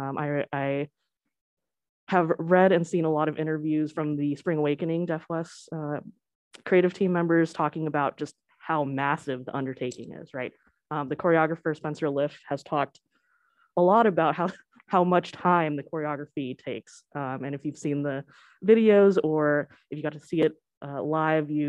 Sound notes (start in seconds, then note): none